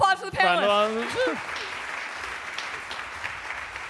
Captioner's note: applause